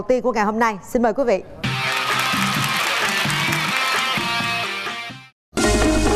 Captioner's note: applause